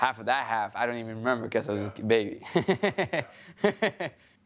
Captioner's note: laughs